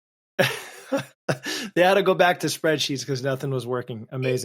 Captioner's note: laughs